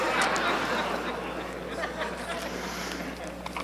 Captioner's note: laughter